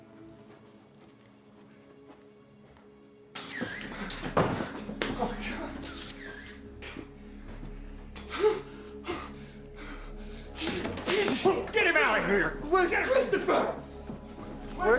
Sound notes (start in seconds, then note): 0.2 suspenseful dramatic music; 3.5 footsteps clomping; 4.1 door thuds; 5.8 camera shutter clicking; 8.4 Addison pants heavily